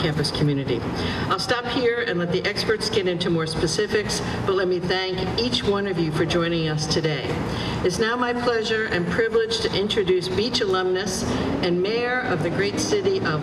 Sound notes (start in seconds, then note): none